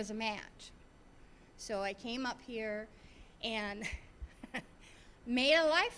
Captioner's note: laughing